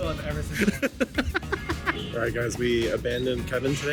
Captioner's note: laughs